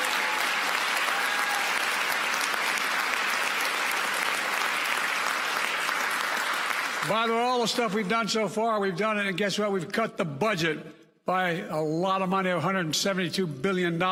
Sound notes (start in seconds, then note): 4.8 applause